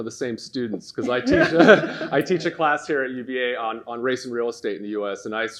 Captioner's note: laughs